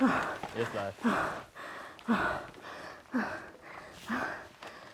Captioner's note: breathes heavily